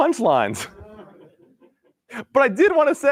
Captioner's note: laughter